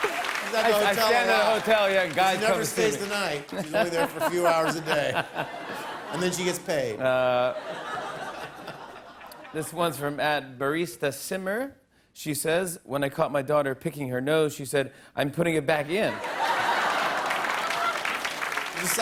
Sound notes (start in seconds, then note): 8.0 laughter; 16.0 laughter and applause